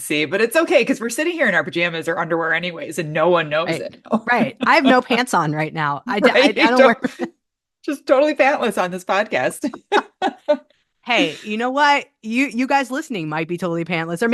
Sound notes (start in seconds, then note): 9.6 laughs